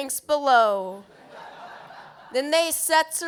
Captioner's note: laughter